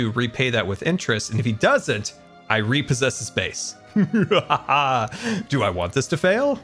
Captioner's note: mildly evil laugh